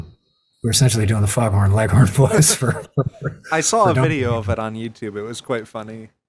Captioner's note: chuckles